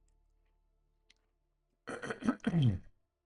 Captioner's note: cough